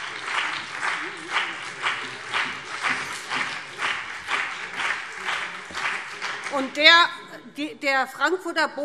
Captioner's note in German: Beifall BÜNDNIS 90/DIE GRÜNEN und CDU